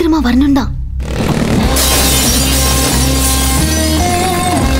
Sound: glass shatters

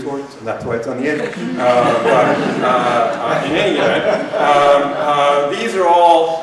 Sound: laughter

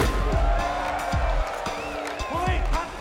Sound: cheering; players shouting to each other

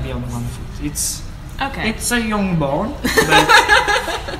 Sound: laughter

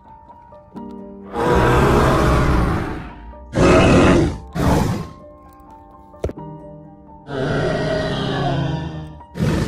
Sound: chasmosaurus sounds

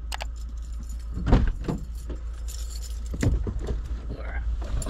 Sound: car keys jingle and van door opens

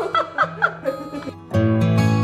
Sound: laughing; relaxing music

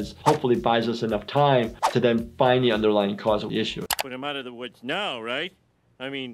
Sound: none

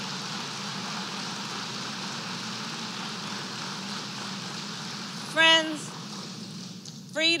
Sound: applause

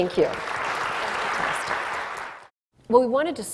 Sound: applause

